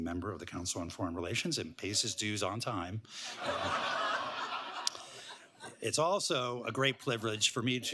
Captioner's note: laughter